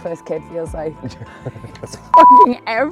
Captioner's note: laughter